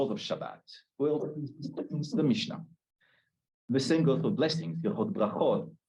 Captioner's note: Hebrew